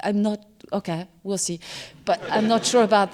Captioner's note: laughter